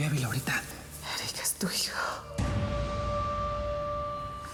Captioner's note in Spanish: susurra